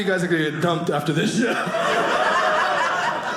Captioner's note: audience laughing